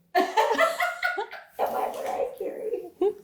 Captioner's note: laughing